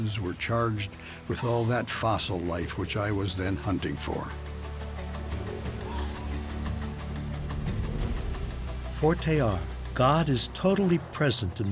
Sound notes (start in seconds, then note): 4.9 suspenseful music; 9.1 speaking in foreign language